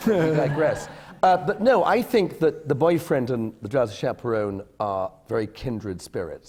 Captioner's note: laughter